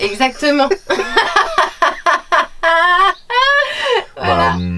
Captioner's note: laughter